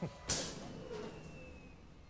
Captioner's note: electricity crackles